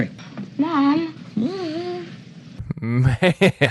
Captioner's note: mocking tone